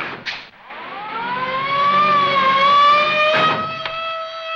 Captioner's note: siren wails